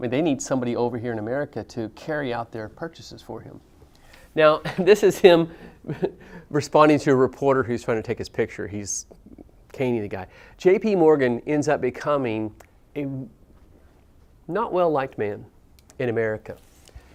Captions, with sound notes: they need somebody over here in America to carry out their purchases for him. Now, this is him [LAUGH] responding to a reporter who's trying to take his picture. He's caning the guy. JP Morgan ends up becoming a not well-liked man in America,